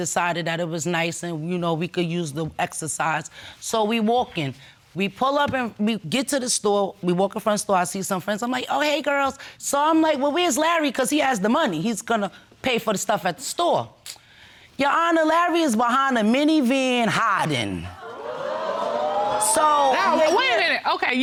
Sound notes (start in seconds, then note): 17.9 audience exclaiming